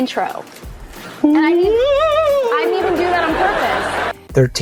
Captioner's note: makes ghostly "woooo" sound